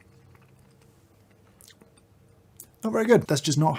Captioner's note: too many fully uncalled for lip smacks